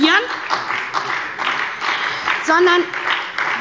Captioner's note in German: Beifall bei der SPD